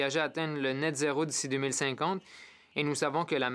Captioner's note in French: voix de l'interprète